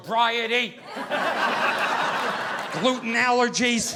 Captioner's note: audience laughing